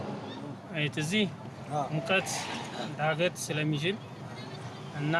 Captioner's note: speaking in foreign